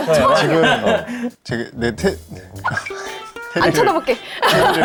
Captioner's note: hesitates